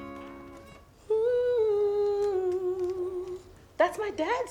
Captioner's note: Mirtala hums brightly